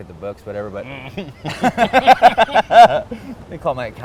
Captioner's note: laughs